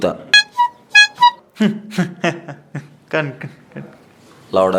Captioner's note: laughing